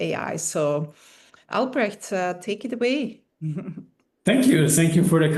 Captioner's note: chuckling